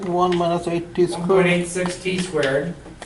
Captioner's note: voiceover